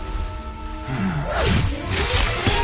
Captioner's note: sigh of relief